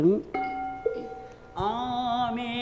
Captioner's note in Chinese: 引磬聲